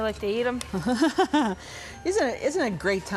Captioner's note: chuckles